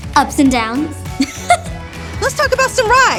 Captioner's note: laughs